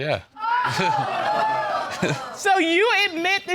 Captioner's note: audience exclaims